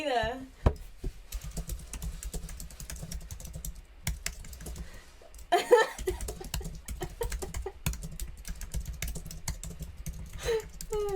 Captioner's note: typing noise and laughing